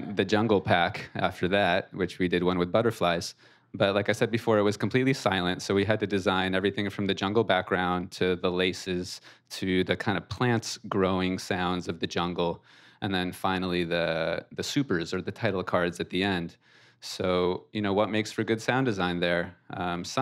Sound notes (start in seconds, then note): none